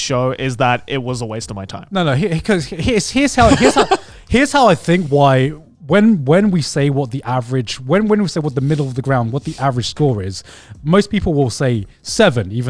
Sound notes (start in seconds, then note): 3.4 laughing